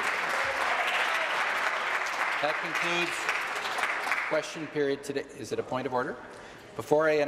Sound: applause

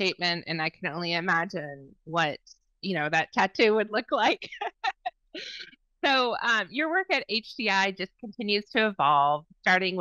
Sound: laughs

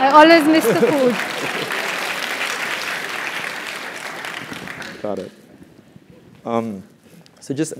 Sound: applause; laugh

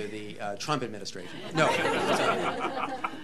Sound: laughter

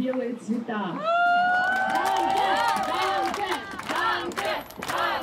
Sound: chanting

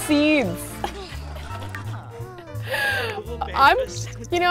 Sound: laughs

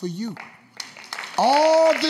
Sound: audience claps

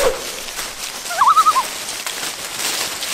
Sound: loon call

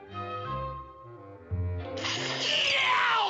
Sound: slurps

